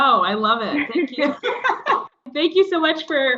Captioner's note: laugh